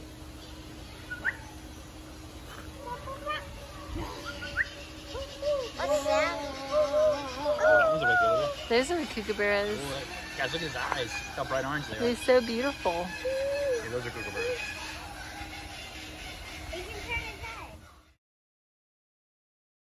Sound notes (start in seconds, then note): 6.9 kookaburras laughing